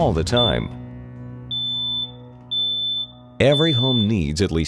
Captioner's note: beeping